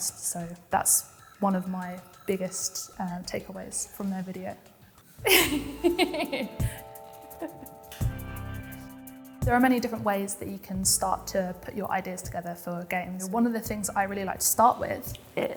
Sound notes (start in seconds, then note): 5.2 laughs; 6.8 feel-good music